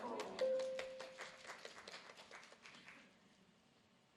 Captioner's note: audience applauding